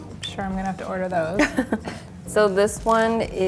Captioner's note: laugh